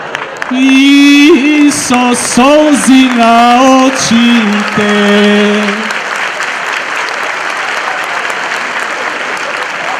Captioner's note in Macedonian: аплауз